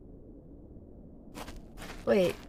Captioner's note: footsteps start and stop